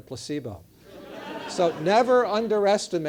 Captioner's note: laugh